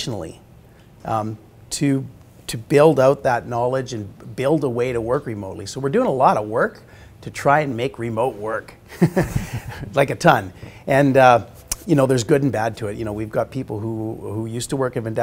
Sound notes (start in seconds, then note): 8.9 laughing